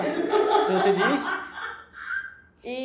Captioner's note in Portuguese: risos